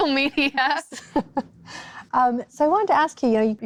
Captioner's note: laughs; chuckles